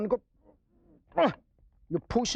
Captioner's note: grunts